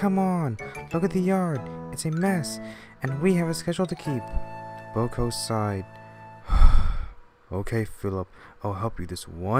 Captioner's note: sigh